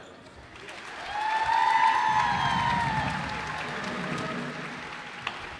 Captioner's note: cheers and applause